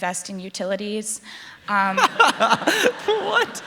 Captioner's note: laughter